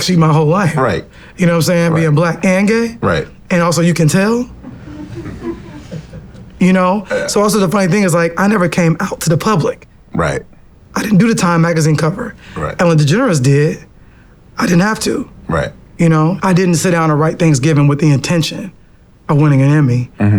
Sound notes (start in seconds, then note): 5.9 laughs